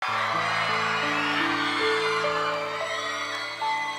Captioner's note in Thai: ปรบมือ